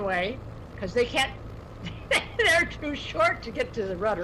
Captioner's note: laughs